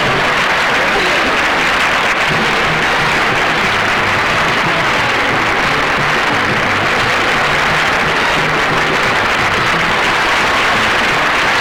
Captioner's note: audience Applauding